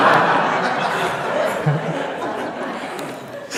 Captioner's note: laughter